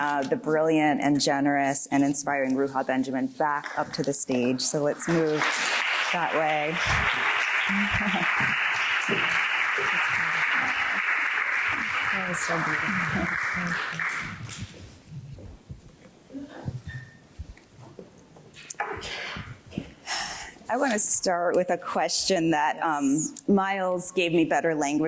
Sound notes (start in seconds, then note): 7.2 applause